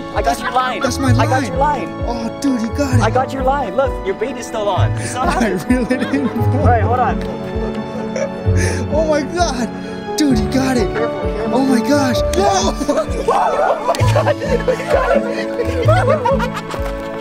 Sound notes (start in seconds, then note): 12.3 joyful exclamations